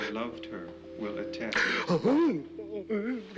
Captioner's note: sobbing dramatically